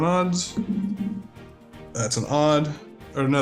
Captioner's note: bouncing thuds